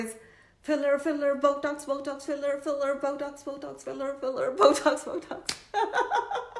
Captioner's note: laughs